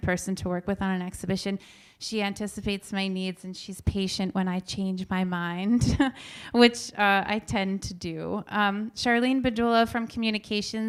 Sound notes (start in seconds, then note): 5.8 chuckles